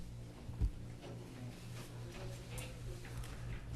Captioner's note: background Sounds and Discussion